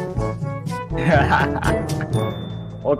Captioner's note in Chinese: 無情嘲笑